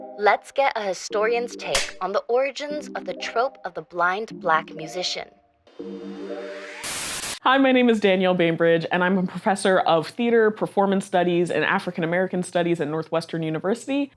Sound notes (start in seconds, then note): 6.6 static